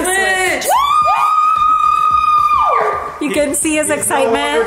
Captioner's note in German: schreit